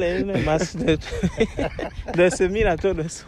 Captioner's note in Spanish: Risas